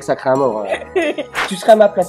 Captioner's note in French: rires